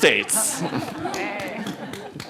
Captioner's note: audience laughing